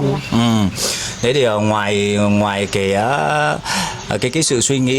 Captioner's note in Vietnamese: khịt mũi